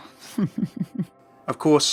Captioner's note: Sombra laughs